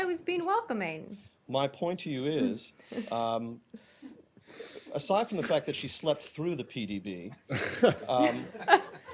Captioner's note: laughter